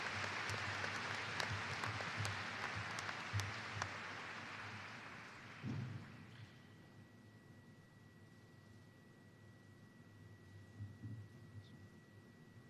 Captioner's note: applause